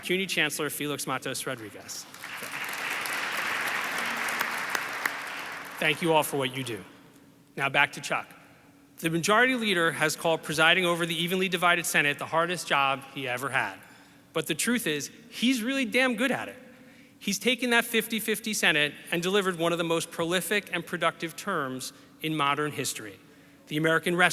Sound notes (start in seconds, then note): 1.5 audience applauds